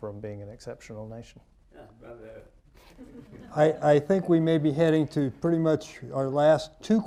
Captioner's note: laughter